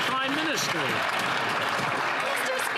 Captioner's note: applause